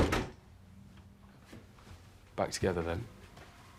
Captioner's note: door bangs